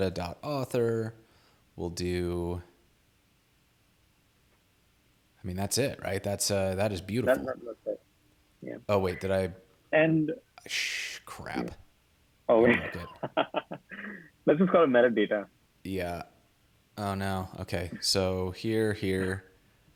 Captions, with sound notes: we'll do, I mean that's it right? That is beautiful. Oh wait did I... - And... - Ah, crap. - Oh yeah. (laughing) let's just call it meta data. - Yeah, oh no, okay, so here here,